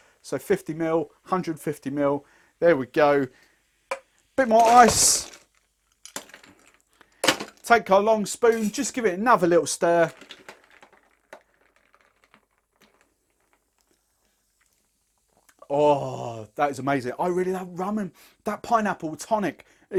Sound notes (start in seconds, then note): 4.4 can clinks; 6.1 ice cubes clatter